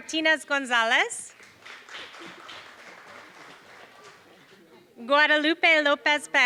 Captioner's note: applause